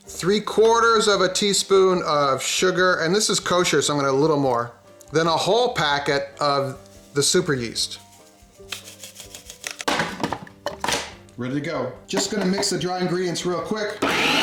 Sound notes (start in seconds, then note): 9.7 bag tapping; 9.8 lid banging